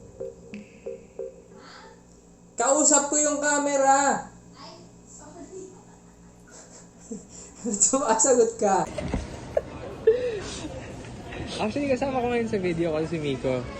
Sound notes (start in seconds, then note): 5.8 resigned laugh; 9.4 snickering